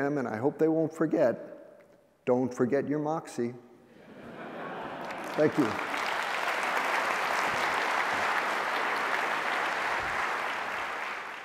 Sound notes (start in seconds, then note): 4.0 laughter; 4.8 applause